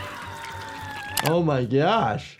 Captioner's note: screaming